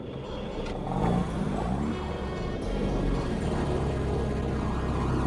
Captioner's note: engine rumbling